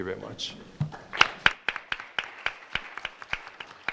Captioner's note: clapping